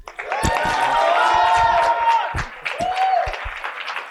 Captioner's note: cheering and applause